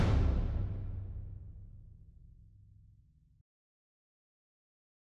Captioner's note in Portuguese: pausa sonora